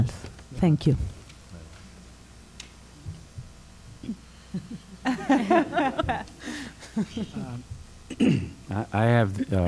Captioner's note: laughter